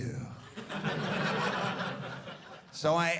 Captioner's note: audience laughing